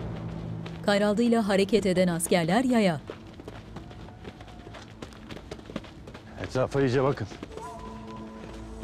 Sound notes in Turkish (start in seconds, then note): 2.5 Ayak sesleri